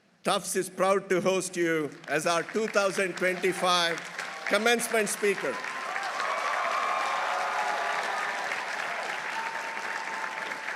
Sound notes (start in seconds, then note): 4.1 audience cheering; 5.1 audience applauding